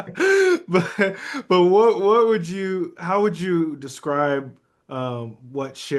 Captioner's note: still laughing